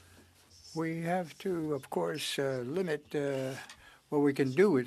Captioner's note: speaking French